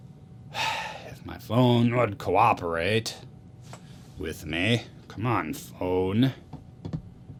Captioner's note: sigh